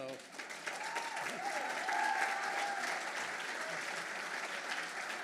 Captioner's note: cheers, applause